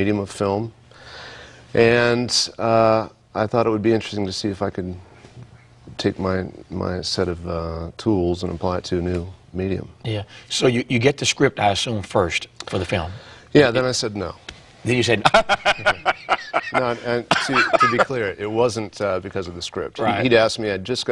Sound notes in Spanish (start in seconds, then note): 15.2 risas